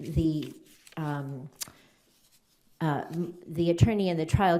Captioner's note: paper rustling